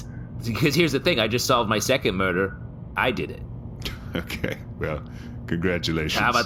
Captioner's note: laughing